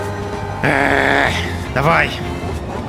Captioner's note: growling